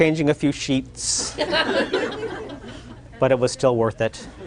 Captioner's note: laughter